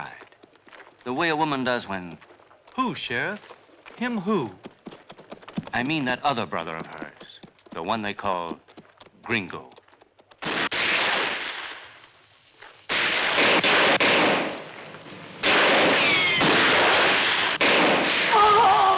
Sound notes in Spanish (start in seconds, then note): 10.4 Disparos